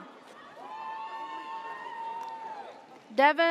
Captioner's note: audience cheers